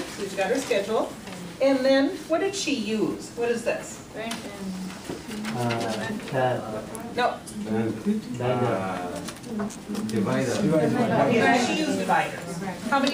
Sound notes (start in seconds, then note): 6.4 voiceover; 7.9 class stammers; 10.6 voiceover